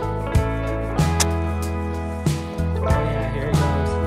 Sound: match lits; mellow tempo playing

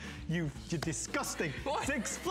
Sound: laughter

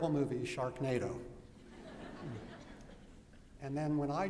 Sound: laughter

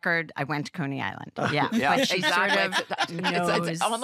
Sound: laughter

